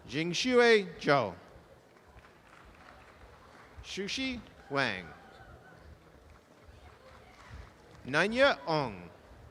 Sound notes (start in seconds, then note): 1.9 audience applause; 6.2 audience applause